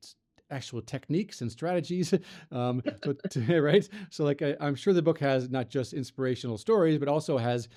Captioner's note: both laugh